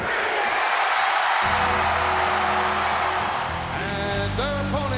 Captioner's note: crowd cheers; bell rings